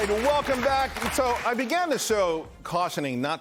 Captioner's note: cheers and applause